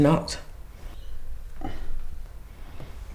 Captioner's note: grunts